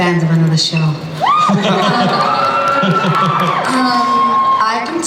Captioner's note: cheering